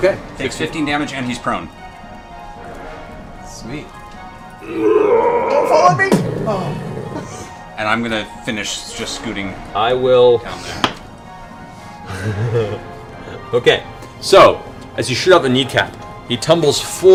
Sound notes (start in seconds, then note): 6.0 heavy impact; 12.1 laughs